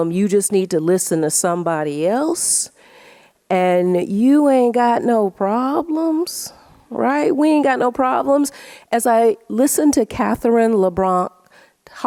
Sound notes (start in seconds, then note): none